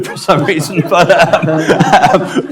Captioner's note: laughs